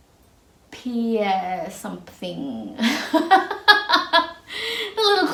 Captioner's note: laughs